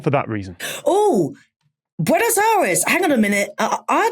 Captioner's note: gasps